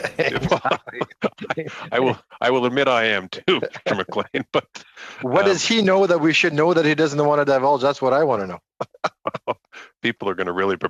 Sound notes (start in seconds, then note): 2.3 laughter